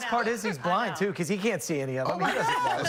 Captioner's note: laughter